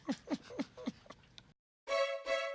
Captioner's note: laughing